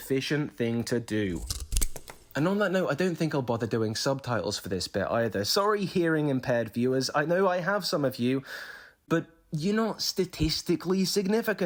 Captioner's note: snip